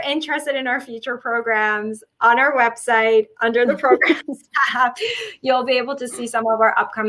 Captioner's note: chuckle